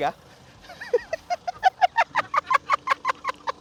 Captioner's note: laughs